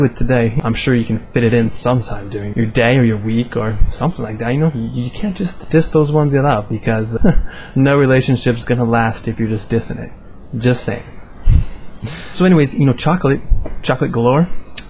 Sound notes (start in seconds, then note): 6.9 haha; 11.6 chuckle